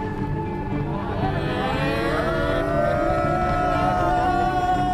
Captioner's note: laughing; cheering